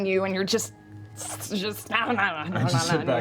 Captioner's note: struggling sounds